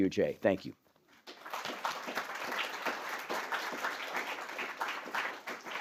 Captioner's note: applause